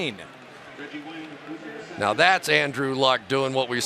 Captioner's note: pa announcement